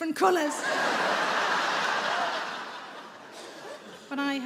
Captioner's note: audience laughing